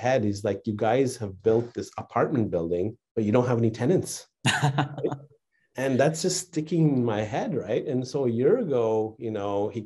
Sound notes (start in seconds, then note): 4.5 laughing